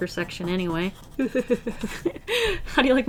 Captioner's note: laughs